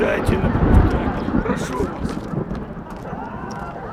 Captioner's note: thunder